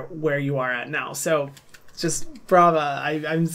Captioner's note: claps